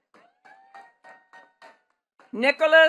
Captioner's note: attendees clapping